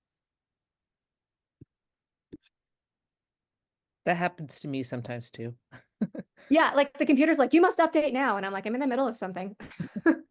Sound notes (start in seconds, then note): 6.0 laughs; 9.6 laughs